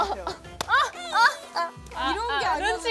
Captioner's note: sobbing